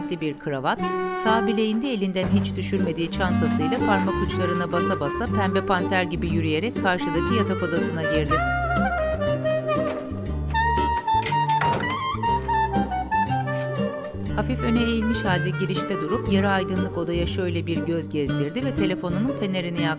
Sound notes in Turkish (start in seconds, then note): 10.5 Kapı kapanma sesi; 12.9 Müzik - Hareketli